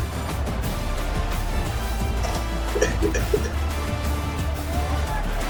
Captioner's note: crowd Noises